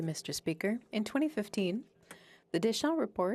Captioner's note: speaking French